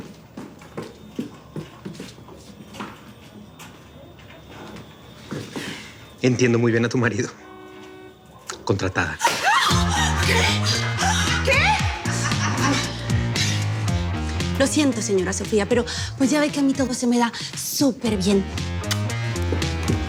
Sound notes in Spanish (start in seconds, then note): 9.2 Grito ahogado